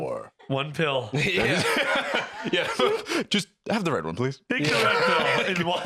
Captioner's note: laughs